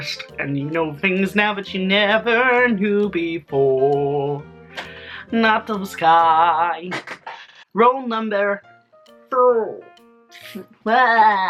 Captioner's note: funny noises